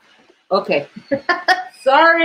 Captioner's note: laughter